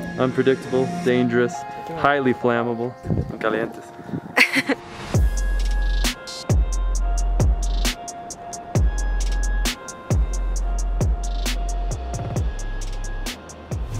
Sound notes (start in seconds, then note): 4.0 speaks foreign language; 4.3 woman laughing; 6.5 upbeat music